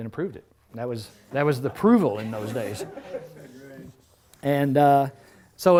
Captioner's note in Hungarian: Nevetés